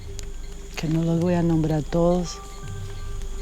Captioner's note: Spanish spoken audio